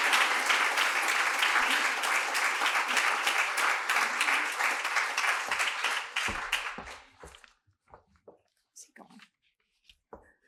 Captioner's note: applause